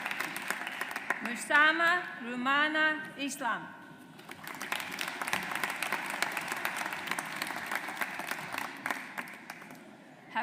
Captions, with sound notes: Mst Rumana Islam. (AUDIENCE APPLAUDS)